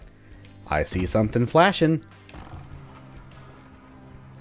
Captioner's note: bookcase sliding